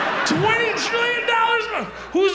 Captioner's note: audience laughs